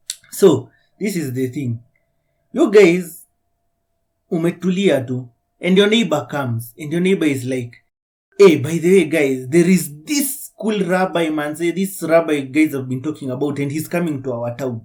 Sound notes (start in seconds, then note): 8.4 exclamation